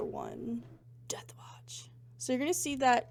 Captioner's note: whispers Dramatically